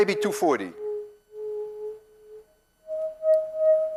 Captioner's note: tube hums medium tone; tube hums higher tone